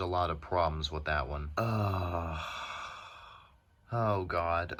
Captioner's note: disappointed ugh